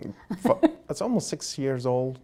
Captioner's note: Dr. Gingrich laughs